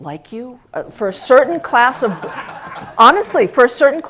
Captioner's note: laugh